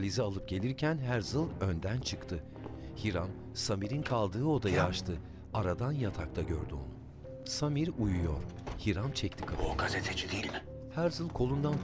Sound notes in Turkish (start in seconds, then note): 2.4 Ayak sesleri; 4.4 Kapı açılma sesi; 8.3 Kapı gıcırdama sesi; 8.5 Kapı kapanma sesi